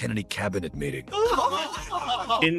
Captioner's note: laughing